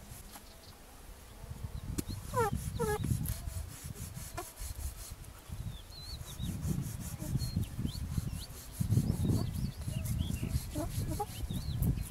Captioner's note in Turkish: Kesme sesi